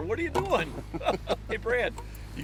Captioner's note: laughing